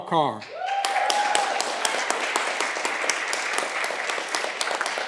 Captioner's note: audience clapping